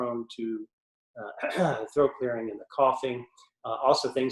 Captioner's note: clears throat